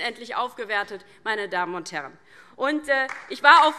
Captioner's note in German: Beifall DIE LINKE und SPD